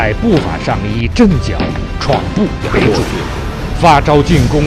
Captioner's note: quaking foot